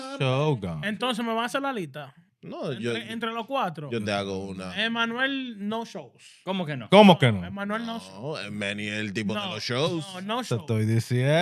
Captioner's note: speaking In Foreign Language